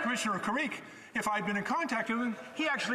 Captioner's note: conversation din